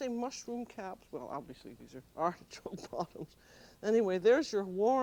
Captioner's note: laughing